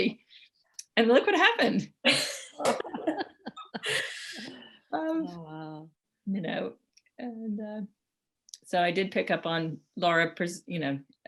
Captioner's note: laughter